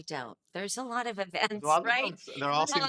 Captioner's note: laughing